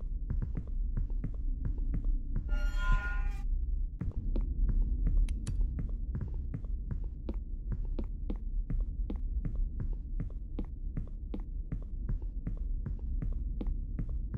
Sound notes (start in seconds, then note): none